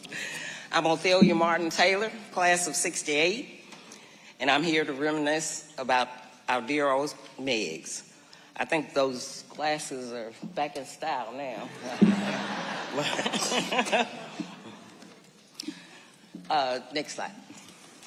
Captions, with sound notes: I'm Othelia Martin Taylor, class of '68, and I'm here to reminisce about our dear old Meigs. I think those glasses are back in style, now. (laughing) (audience laughing) Uh... next slide.